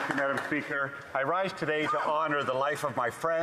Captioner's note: applause